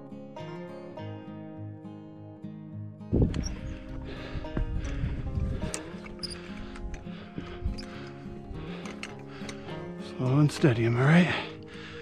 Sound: squeaky chain

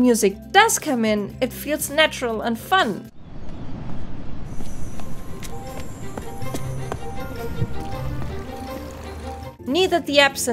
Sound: sounds of footsteps

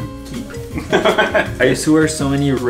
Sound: laughing

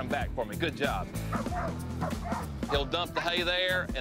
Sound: dog barking

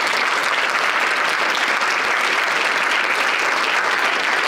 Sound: audience applauding

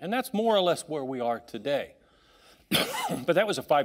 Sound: coughing

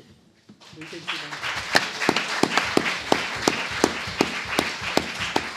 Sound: audience applauds

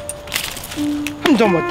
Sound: leaves rustling

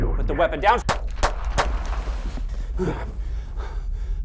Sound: gunshots; David breathes heavily

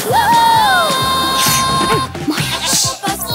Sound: bleating; soft grunt

